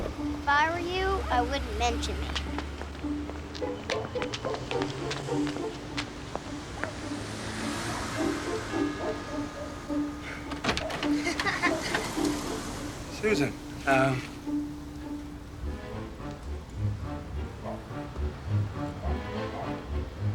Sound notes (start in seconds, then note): 6.5 doorbell chimes; 11.0 alice giggles